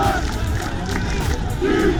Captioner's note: rhythmic clapping